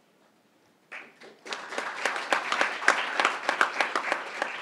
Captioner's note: crowd applauding